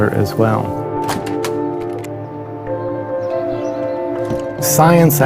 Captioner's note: calm ambient music; door opens